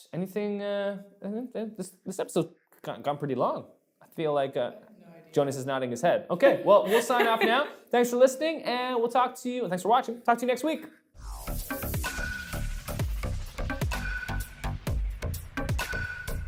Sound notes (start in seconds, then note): 6.8 laughing; 11.2 electronic music